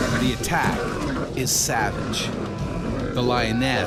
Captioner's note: voiceover